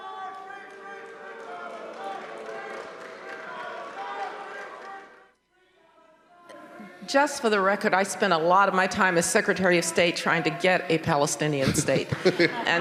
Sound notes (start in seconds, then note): 2.2 audience applauding; 2.2 man shouting faintly